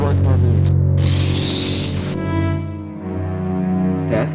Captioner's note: Static